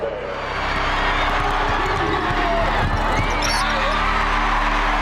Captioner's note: cheers and applause